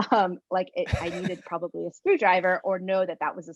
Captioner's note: laugh